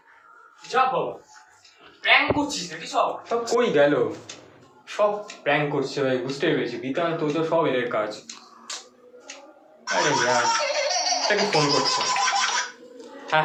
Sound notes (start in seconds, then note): 8.6 smacks lips; 9.8 phone rings